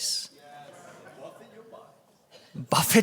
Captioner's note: bold Voice